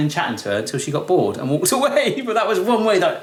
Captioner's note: laughs